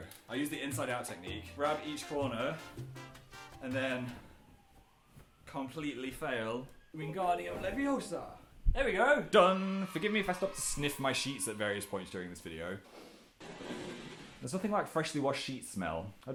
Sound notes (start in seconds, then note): 12.8 intense sniffage